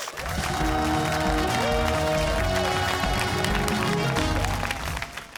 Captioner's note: cheers and applause